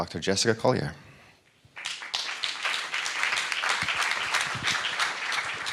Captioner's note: audience applauding